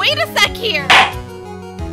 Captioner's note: gavel slam!